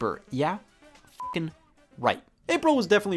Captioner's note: beep